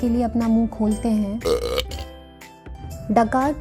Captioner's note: burp